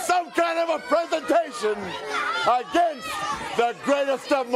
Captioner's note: crowd chatter